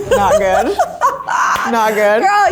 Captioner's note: laughs